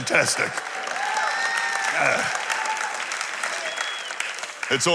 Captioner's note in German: Beifall